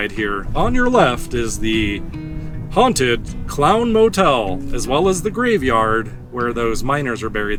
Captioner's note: tour guide voice